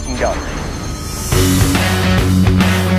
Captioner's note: shimmering; upbeat country music